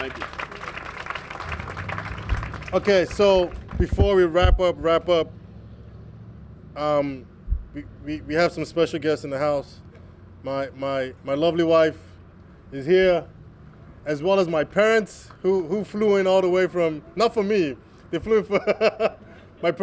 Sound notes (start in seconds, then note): 1.8 applause; 18.4 laughter